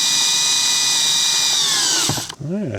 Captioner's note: motor whirring